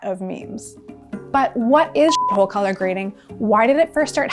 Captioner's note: beep